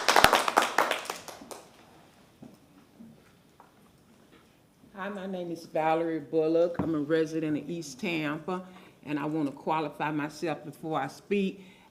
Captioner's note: applause